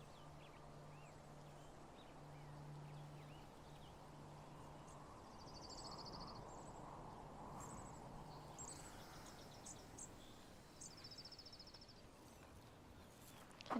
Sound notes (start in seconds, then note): 5.4 wind rustling